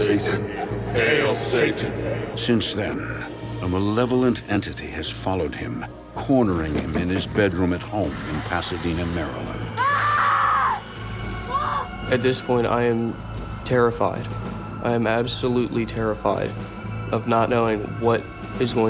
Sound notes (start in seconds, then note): 8.4 banging; 8.4 growls; 8.4 snarls; 9.7 screams